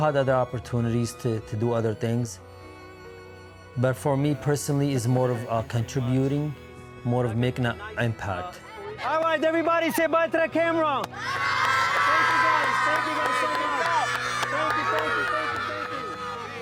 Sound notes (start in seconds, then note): 2.7 gentle music; 14.0 children cheering